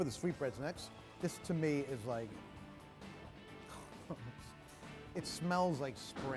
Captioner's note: sighing